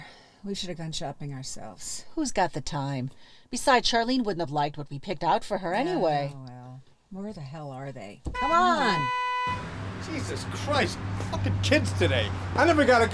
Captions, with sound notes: TIGHTWADS IN THERE. WE SHOULD HAVE GONE SHOPPING OURSELVES. WHO'S GOT THE TIME? BESIDES, CHARLENE WOULDN'T HAVE LIKED WHAT WE PICKED OUT FOR HER ANYWAY. OH, WELL. WHERE THE HELL ARE THEY? [ CAR HORN HONKING ] COME ON! JESUS CHRIST! FUCKING KIDS TODAY!